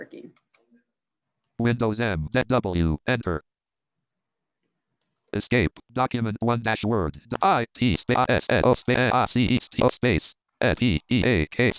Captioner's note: computer speaking as it access sofware and spelling out each letter typed